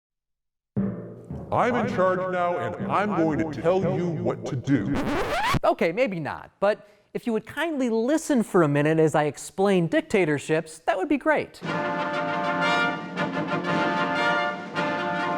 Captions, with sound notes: (intense music) - I'm in charge now and I'm going to tell you what to do. (record scratches) Okay, maybe not. But if you would kindly listen for a minute as I explain dictatorships, that would be great. (dramatic fanfare music)